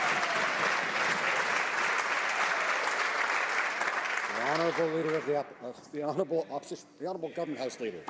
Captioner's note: some Applause